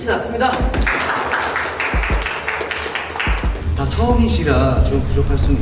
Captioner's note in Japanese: パチパチ